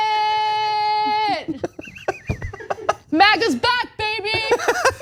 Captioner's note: laugh